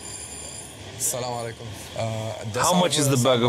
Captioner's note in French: Arab spoken audio